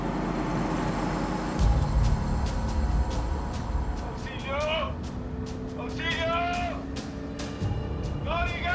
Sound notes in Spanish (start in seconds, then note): 2.2 Ruido del vehículo